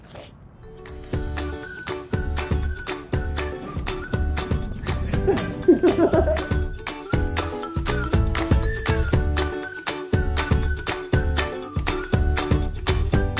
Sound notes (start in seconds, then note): 5.2 laughter